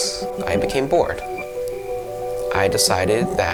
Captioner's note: crickets chirping